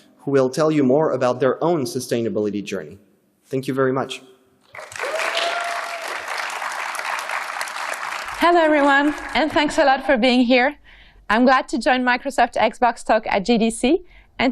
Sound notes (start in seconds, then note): 4.6 audience claps